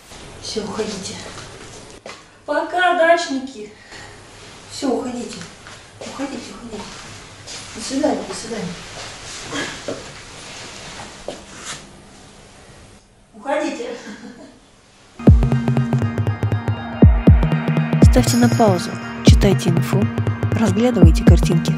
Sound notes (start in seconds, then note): 13.9 hee-hee